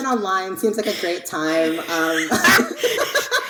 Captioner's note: both laughing